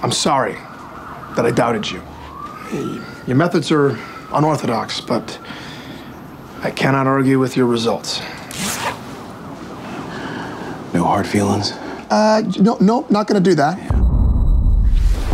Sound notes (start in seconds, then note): 8.5 pants zipping; 13.9 dramatic music